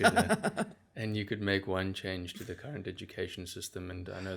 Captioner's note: laugh